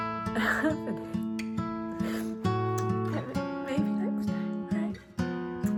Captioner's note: sobbing